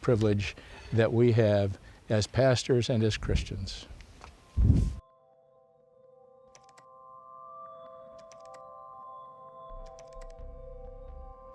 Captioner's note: wind rustling; keyboard clacking